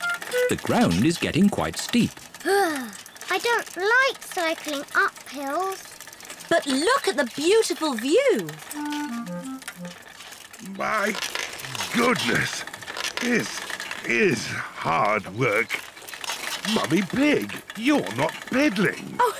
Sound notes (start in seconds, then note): 2.4 groans; 18.9 giggles